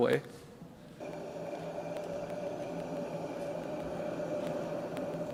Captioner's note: wind gushing